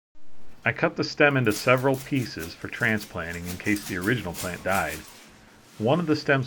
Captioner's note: saw cutting